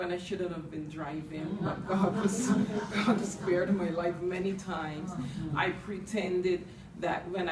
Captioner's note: responses from the audience